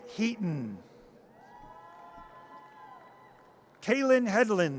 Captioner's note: audience cheers